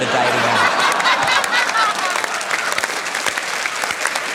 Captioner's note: laughter, applause